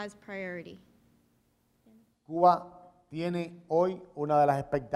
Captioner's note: speaking in Spanish